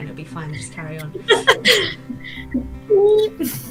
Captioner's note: laughs